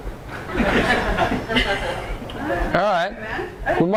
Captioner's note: audience laughs